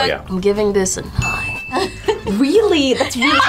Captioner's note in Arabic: يضحك